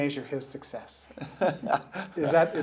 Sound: laughing

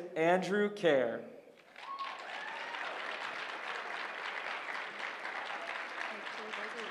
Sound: applause

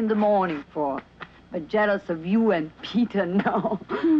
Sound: chuckles

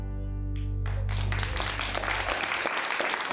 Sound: applause

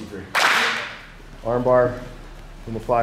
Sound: clap

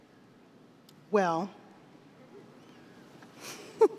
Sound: giggles

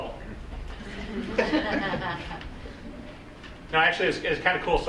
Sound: group laughing

